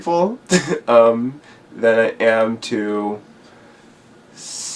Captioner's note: laughs